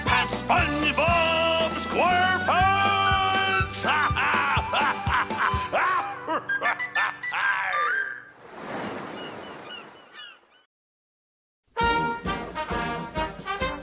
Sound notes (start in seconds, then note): 3.7 captain laughs